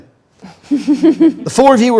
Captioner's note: group laughs